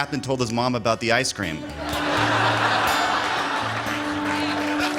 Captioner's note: laughter